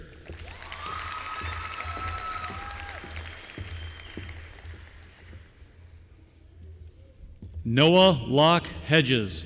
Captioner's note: applause